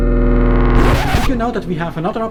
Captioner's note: record scratching